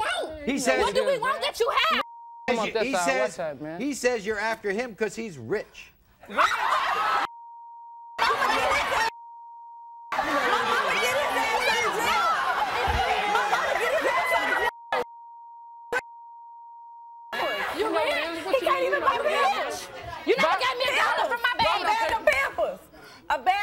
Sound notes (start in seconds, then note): 6.3 women clamor